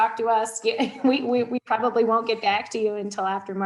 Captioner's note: laughs